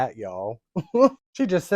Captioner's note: simpathetic chuckle